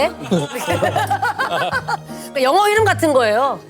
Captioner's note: laughing